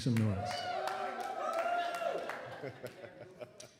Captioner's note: applause and cheering